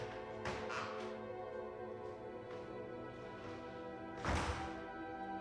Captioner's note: door clicks and thuds